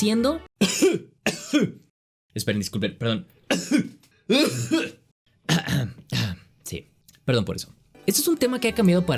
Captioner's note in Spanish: coff coff